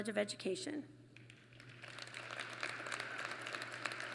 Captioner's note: applause